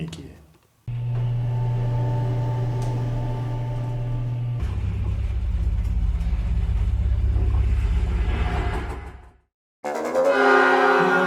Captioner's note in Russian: звук поднимающегося лифта